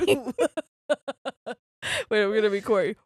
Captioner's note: laughing